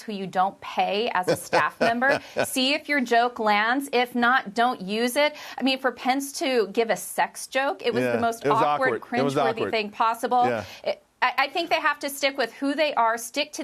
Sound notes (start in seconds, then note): 8.0 laughter